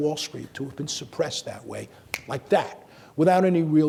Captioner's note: snaps fingers